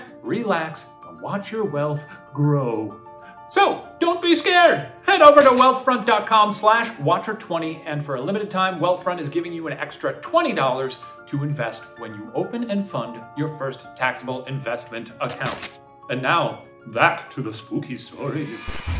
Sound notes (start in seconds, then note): 15.6 electrical buzzing; 18.7 intense eerie music